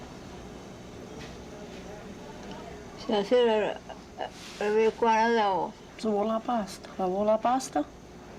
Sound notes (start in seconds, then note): 2.8 Italian